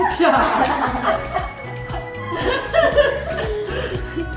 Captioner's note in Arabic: يضحك الجميع